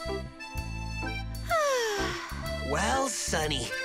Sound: Lola breathes heavy

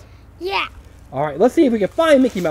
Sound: voiceover

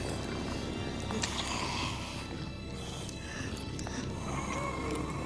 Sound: Luther growling; dramatic music

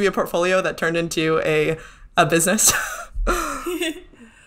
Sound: laughs

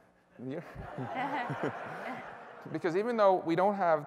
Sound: laughter

